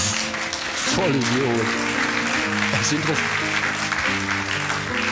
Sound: clapping

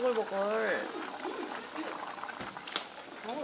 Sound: boiling

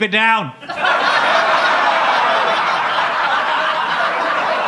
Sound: audience laughing

